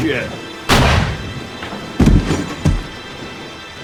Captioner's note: gunshot